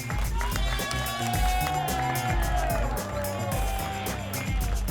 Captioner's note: applause and cheering cont